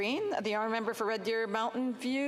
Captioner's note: speaking French